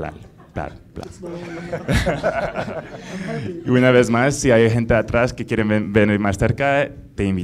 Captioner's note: laughing